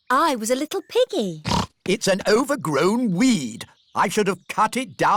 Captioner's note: snorts